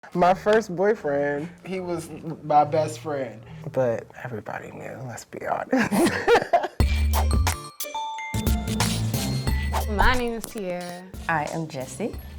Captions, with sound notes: - My first boyfriend, he was my best friend. But everybody knew, let's be honest. (both laughing) (upbeat music) - My name is Tiara. - I am Jessi.